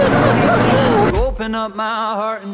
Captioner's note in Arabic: تضحك